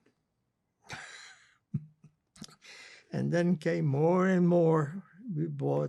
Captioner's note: laughing